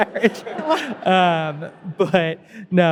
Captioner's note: audience laughing